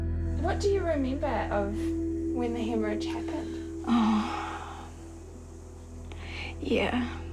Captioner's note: sighs